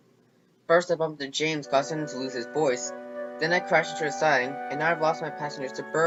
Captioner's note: none